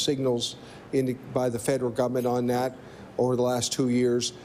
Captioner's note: none